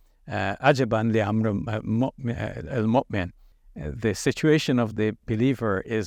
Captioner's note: speaking Arabic